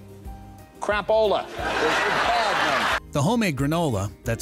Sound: audience laughing

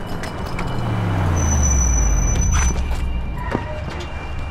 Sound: siren blaring

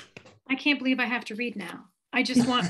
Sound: laughs

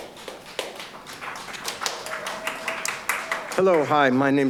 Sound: audience applauds

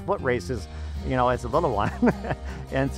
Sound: laughs

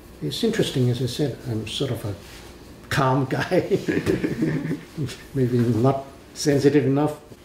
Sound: laughs

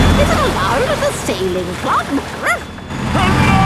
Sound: barks

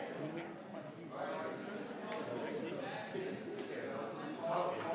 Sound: members chattering

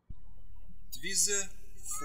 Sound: birds chirping

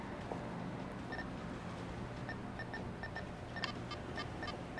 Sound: sensor beeping

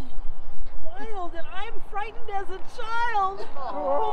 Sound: audience moans mockingly

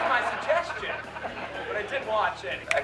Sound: laughter

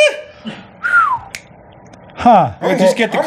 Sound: whistles

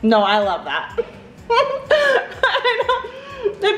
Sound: laughing

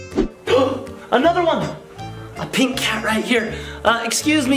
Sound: coos; gasps

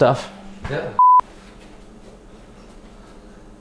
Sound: beep

